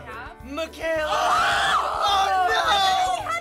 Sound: screaming

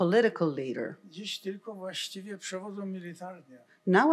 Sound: foreign language

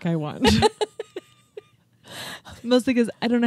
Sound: chuckling

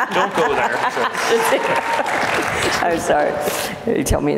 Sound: laughing; applauds

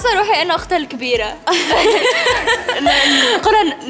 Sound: laughing

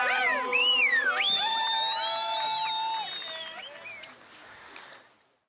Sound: people shout and whistle

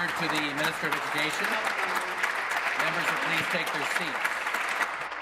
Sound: applause

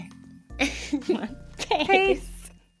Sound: laughs

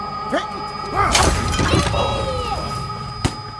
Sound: table shatters

